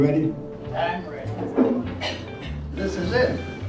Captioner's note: coughing